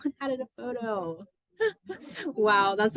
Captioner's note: laughs